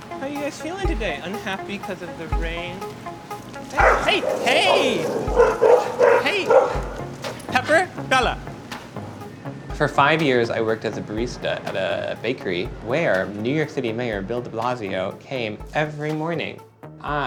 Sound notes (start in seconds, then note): 3.7 dog barks; 9.3 narrating